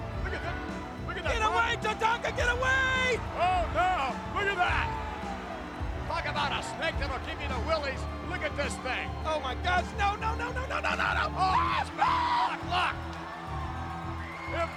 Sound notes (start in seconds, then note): 11.5 Jerry screaming; 13.6 upbeat music